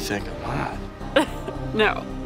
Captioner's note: laughs